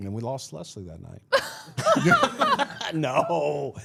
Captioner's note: all laughing